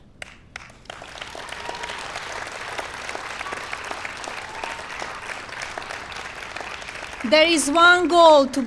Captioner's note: applause